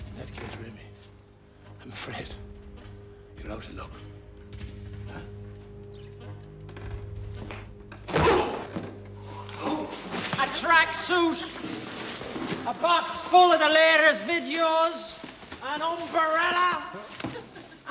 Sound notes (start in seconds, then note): 8.0 grunting